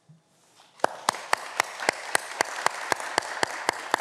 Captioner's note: audience clapping